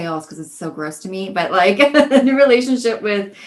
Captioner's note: laughs